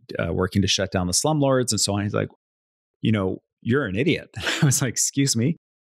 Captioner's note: chuckles